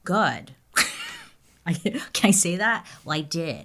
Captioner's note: laughing